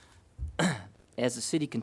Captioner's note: coughs